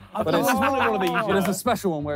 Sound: all laughing

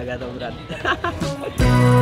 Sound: laughs

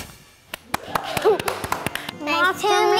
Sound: clapping, laughing

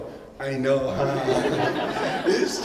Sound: laughter

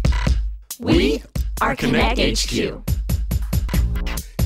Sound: in Unison

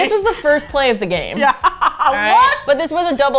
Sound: laughs

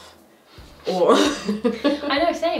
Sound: laughing

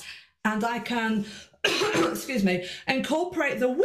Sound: coughs

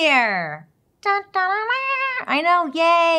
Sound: humming trumpet fanfare

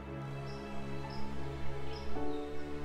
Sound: birds chirping; gentle music

